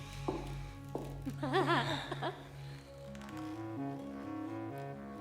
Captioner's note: Elisabeth giggles